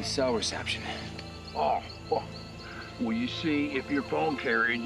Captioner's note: scoffs